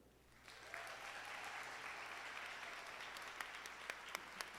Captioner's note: audience applauding